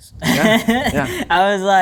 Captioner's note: people laughing